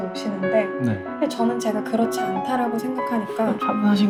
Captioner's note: in the calmest tone imaginable